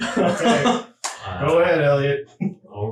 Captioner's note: laughing